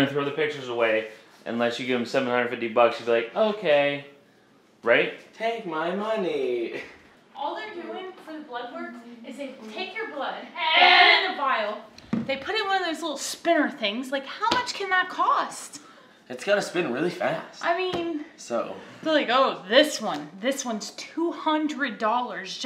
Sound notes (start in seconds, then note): 10.3 groans loudly